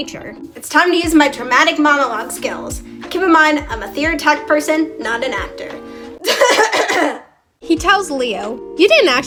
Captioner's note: dramatic cough